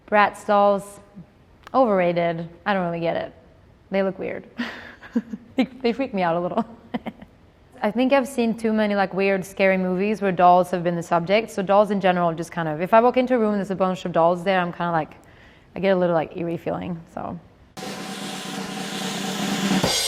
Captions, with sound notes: Bratz dolls, overrated. I don't really get it. They look weird. [laughs] Think they freak me out a little. I think I've seen too many, like, weird scary movies where dolls have been the subject, so dolls in general, I'm just kind of, if I walk into a room and there's a bunch of dolls there, I'm kinda like, I get a little, like, eerie feeling. [drumroll]